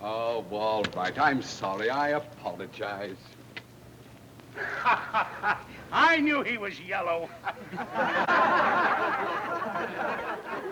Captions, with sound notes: - Oh, well, all right. I'm sorry. I apologized. - (laughs) I knew he was yellow. (people laughing)